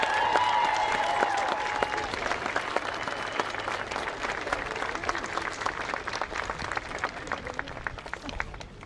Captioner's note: applause